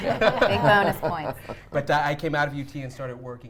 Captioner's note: everyone laughs